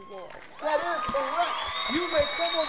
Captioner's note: crowd cheers